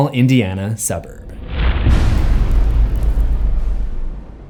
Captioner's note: impact